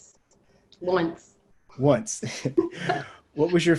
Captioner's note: both laughing